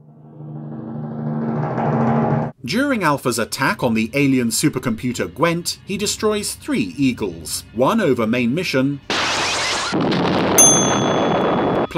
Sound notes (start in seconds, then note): 0.0 intense music; 9.1 loud explosion; 10.6 bell dings